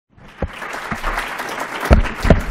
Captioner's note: applause